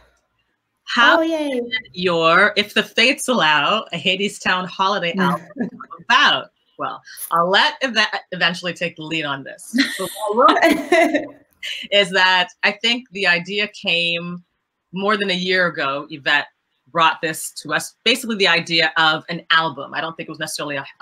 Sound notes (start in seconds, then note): 9.8 laughter